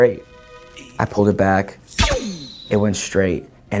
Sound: arrow whooshes

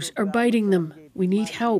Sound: speaking alternate language

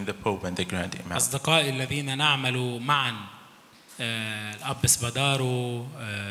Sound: speaks in foreign language

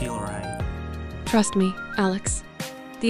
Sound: confident

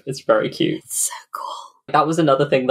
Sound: whispers

